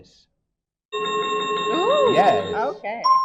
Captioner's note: chiming sound effect